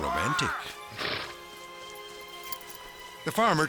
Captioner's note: farmer shouts